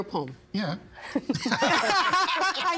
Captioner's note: all laughing